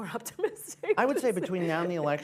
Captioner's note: laughs